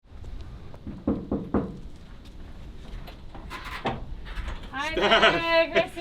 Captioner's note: gate knocking